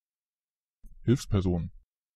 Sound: fast Pronunciation

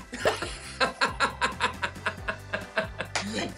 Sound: laughter

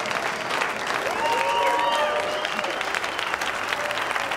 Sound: cheering and applause

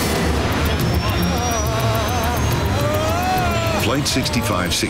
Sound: both shouting

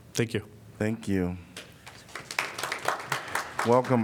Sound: applause

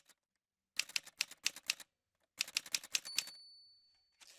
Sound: typewriter sounds

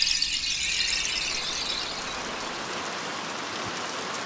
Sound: tinkling of rainstick; fade to sound of heavy rain; rainfall continues

